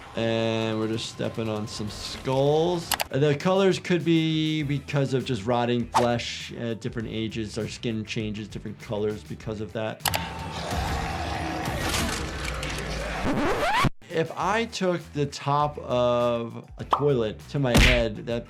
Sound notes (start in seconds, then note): 10.2 zombie growling; 13.0 disc scratching